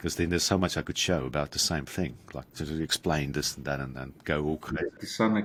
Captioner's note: none